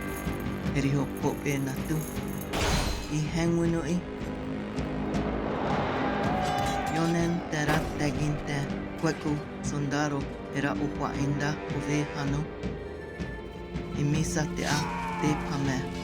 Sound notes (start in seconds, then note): 0.1 man speaking Tewa; 6.1 men shouting, swords clashing; 14.2 sword slashes, man screams